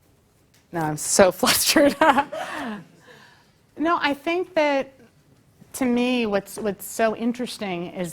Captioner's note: laugh